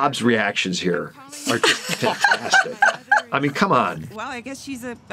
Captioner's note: laughing